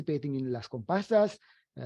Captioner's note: speaking foreign language